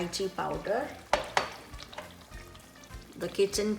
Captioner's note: dishes clinking